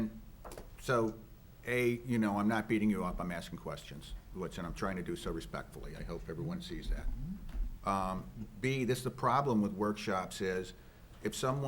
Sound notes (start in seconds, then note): none